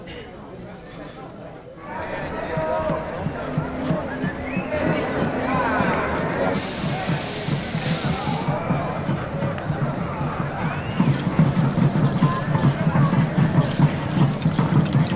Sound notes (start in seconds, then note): 7.3 sizzling; 11.7 drums beating